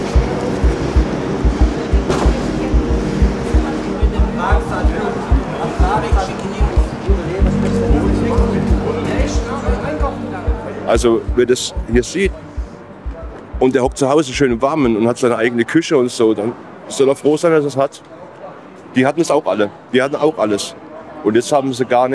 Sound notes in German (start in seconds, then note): 0.2 Ruhige sphärische Musik; 4.3 Stimmengewirr